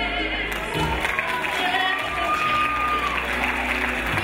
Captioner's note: crowd cheers